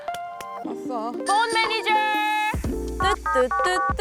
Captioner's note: phone manager calling sound effect; dialing sounds